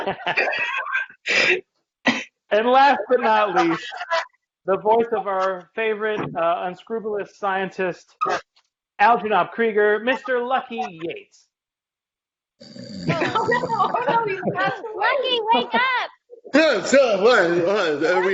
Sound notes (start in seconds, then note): 12.6 snoring